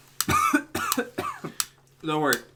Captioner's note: coughs